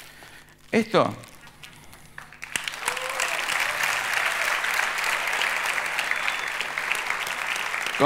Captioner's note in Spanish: Aplausos